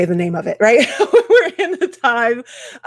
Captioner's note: laughing